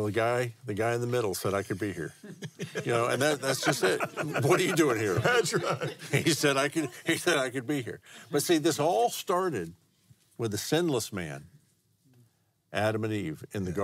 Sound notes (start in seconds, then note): 4.2 laughs